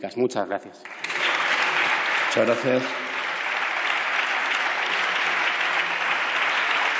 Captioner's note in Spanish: Aplausos